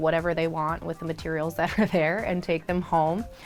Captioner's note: laughs